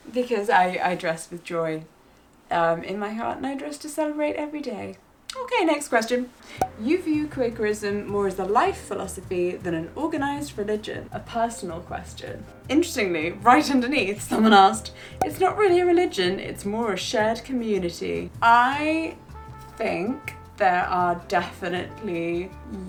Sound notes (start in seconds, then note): 6.6 air popping; 15.2 air popping